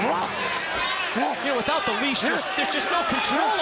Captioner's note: crowd chatter